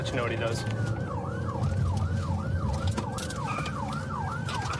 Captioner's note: siren wailing